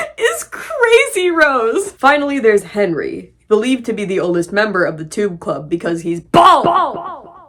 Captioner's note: the word "bald" echos